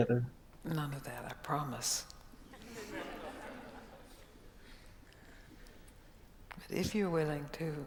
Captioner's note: audience laughs